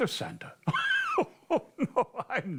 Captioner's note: laughs